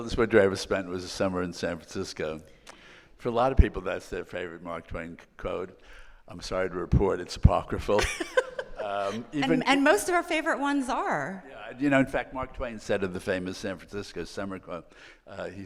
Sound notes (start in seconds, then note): 7.9 laughing